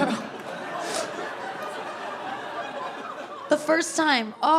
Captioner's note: audience laughing